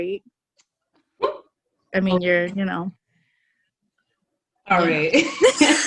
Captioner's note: giggles